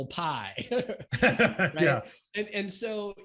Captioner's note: laughs